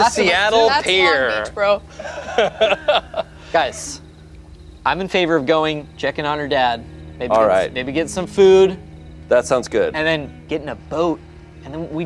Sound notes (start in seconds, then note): 1.8 group laughs